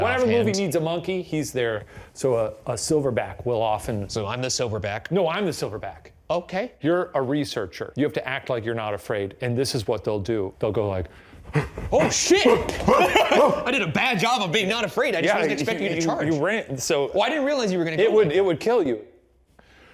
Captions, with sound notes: - Whatever movie needs a monkey, he's there. So a silverback will often-- - So I'm the silverback. - No, I'm the silverback. - Okay. - You're a researcher. You have to act like you're not afraid. And this is what they'll do. They'll go like. (grunting) - Oh shit. (laughing) I did a bad job of being not afraid. - Yeah. - I just wasn't expect you to charge. - You ran, so- - Well, I didn't realize you were gonna-- - it would kill you.